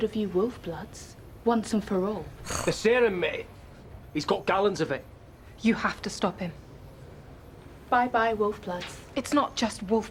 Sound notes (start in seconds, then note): 2.4 growls